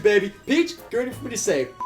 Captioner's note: beeps